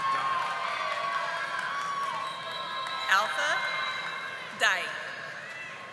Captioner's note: audience applauding